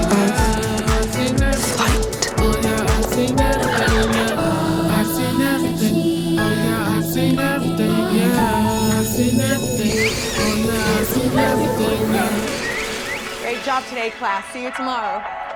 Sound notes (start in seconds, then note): 0.0 keystrokes; 3.4 cooing; 8.1 airdrop chime; 8.1 school bell rings; 9.5 chirping; 10.8 indistinct chatter